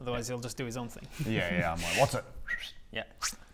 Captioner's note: whistle